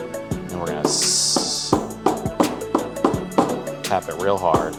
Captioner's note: cup tapping